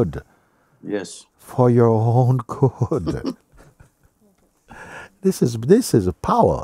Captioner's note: Ο Ερωτών γελά